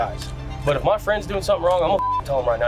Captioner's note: beep